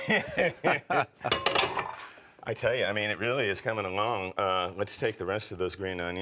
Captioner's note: laughs